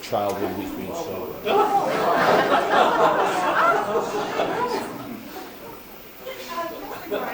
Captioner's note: laughter